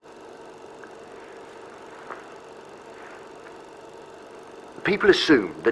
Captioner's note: old film sound effects